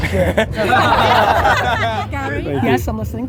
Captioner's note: group laughter